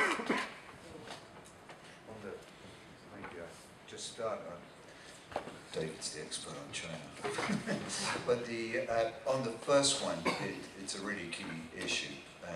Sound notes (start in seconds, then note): 7.2 chuckles